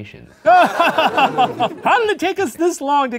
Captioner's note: laughing